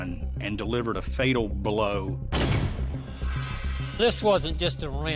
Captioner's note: gun firing